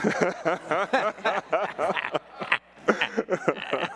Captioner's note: all laughing